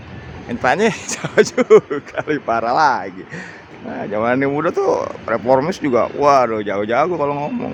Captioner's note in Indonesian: tertawa